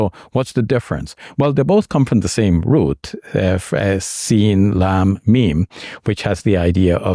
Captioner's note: speaking in Arabic